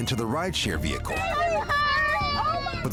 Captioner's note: crying